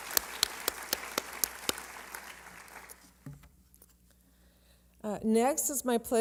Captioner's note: applause